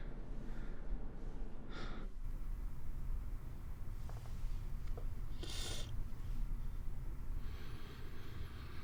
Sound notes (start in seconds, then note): 4.8 Mae sniffles